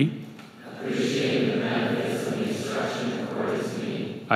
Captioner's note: crowd